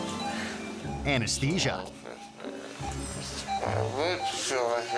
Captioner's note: laughing; harp music; man muttering